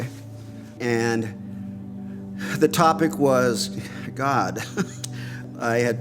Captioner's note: laughing